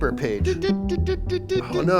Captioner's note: beeping